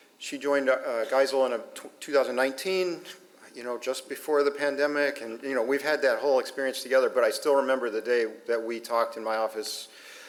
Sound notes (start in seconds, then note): none